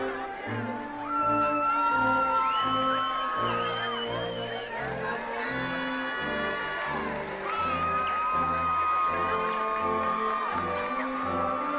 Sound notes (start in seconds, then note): 6.1 attendees continue cheering